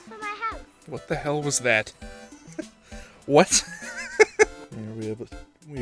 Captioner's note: wheeze; giggle